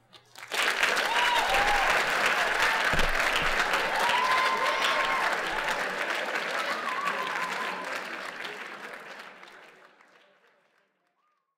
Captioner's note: crowd applauding